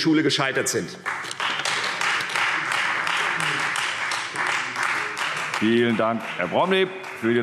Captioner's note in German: Beifall Freie Demokraten